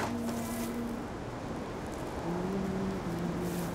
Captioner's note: hums softly